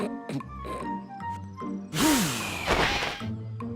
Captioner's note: exhales